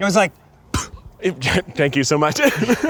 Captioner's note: puffing; laughing